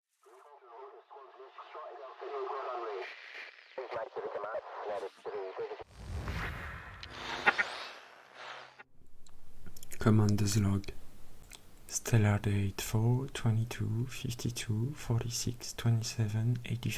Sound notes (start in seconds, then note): 0.3 radio chatter